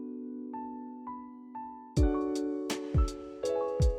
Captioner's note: none